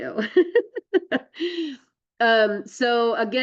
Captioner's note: laughs